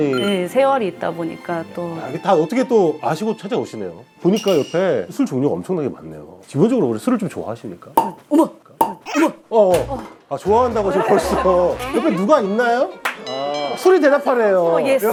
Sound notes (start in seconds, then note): 8.0 pop